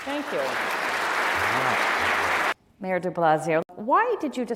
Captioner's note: applause